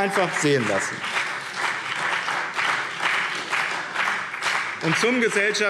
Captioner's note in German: Beifall BÜNDNIS 90/DIE GRÜNEN und CDU